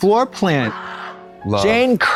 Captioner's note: woman screams